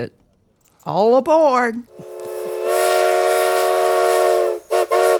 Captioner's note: train whistle blows